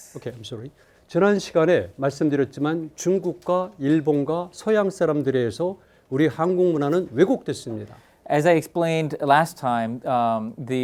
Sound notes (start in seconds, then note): 1.2 speaking in Korean